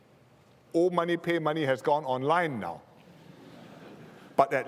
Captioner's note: laughter